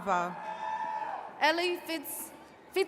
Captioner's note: attendees cheering